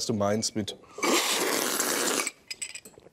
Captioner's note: slurp